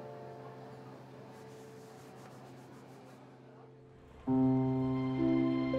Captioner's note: hand rasping; pensive music